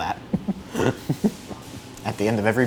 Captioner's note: laughs